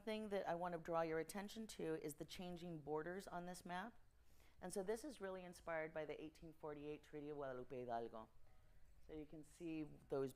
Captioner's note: speaking Spanish